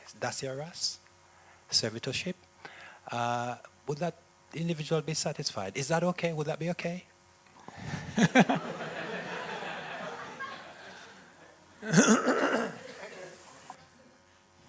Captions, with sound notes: that dasya-rasa - servitorship; would that individual be satisfied? Is that okay? Would that be okay? (laughter)